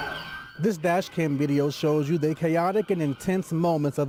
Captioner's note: siren